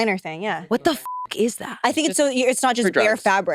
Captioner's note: beep